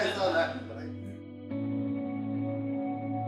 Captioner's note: laughing; calming music